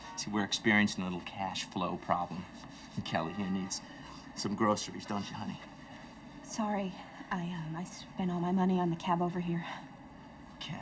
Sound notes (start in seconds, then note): none